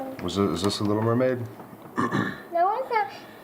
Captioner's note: cough